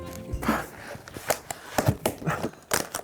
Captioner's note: laughing